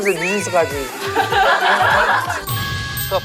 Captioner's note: hahahahahahaha